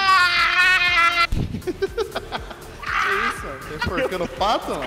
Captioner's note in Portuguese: risos